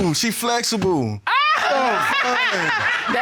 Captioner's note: judge laughs